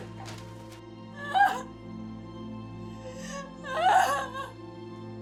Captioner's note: sobbing